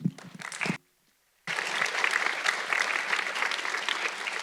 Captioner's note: audience clapping